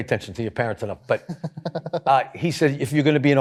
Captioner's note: chuckles